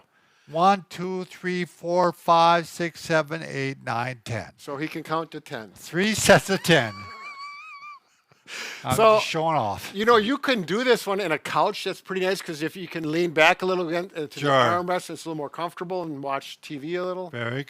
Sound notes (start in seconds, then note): 6.3 laughing